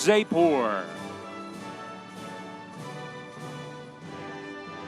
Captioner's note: audience cheering